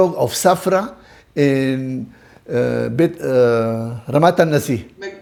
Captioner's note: Hebrew